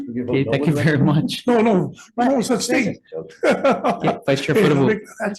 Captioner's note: laughs